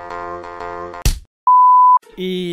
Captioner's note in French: Coup de poing